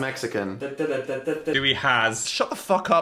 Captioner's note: Young Phil hums